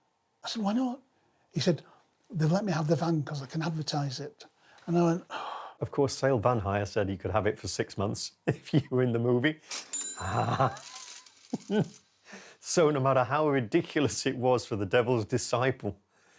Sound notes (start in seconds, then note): 5.2 sighs; 9.9 cash register dings; 10.2 laughing